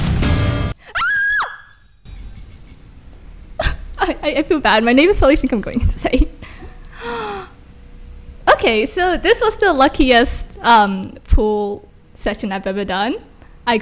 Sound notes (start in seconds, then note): 0.8 scream